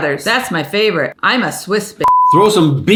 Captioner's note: beep